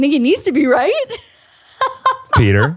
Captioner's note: laughing